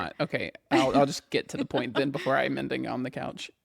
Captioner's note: laughs